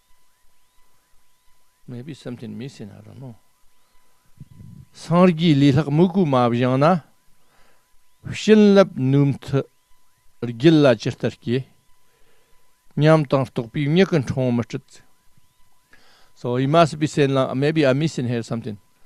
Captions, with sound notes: Maybe something missing. I don't know. [Tibetan] So he must be saying, maybe I'm missing here something.